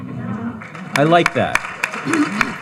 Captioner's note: panelists chuckling; audience applauding